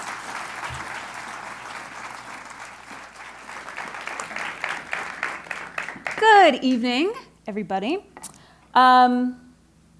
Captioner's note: applause